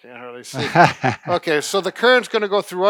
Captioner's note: laughs